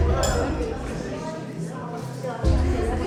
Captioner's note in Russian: шум столовой